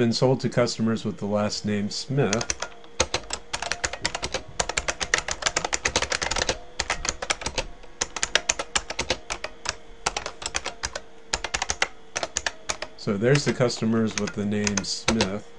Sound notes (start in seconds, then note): 3.7 typing